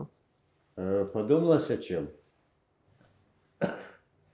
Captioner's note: coughing